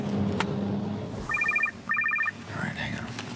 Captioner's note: phone ringing